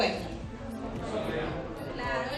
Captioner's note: crowd